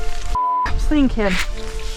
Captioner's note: beep!